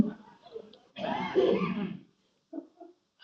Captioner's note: laughter